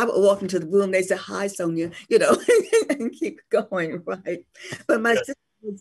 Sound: laughs

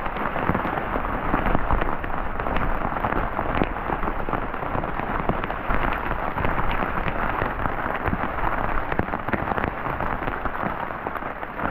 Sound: rain on tarp

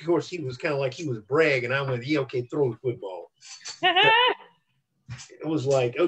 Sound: laughter

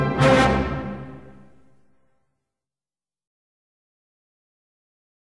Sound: no sound

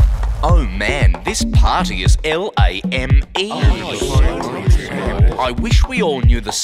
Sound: murmurs of agreement

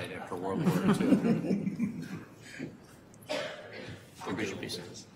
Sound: board members laughing

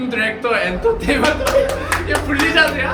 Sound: seal clap

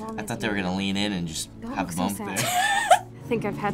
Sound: laughs

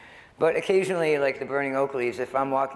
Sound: none

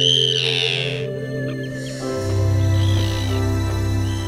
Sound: bird chirping

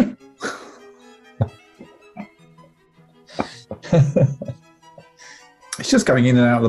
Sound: laughing; quiet giggling

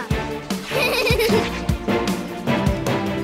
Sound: laughing

